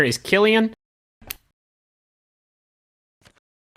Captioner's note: click